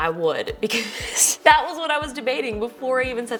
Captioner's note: laughs